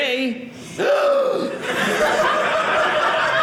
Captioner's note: gasp; audience laughing